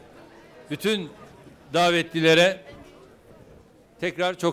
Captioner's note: non-english speech